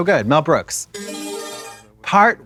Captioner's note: bright chime